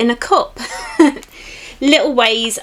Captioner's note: giggles